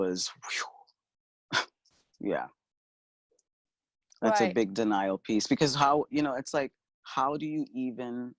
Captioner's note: chuckle